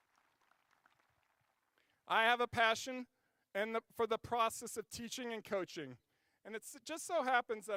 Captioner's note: applause